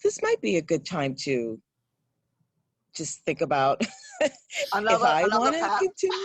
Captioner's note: laughs